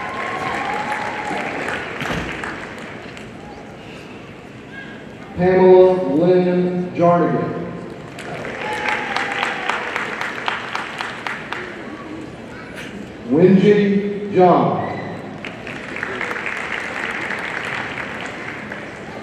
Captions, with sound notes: (audience cheering and applauding) Pamela Lyn Jarnagin, (audience applauding) Wenjie Jiang, (audience applauding)